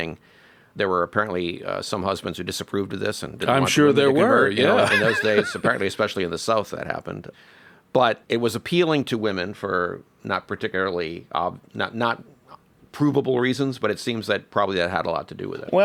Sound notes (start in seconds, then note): 4.6 laughs